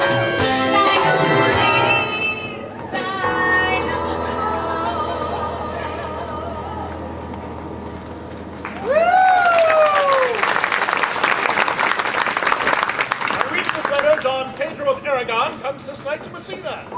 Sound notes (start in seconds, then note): 8.6 applause